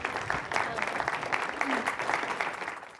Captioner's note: crowd clapping